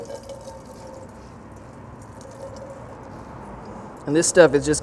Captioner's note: liquid splashes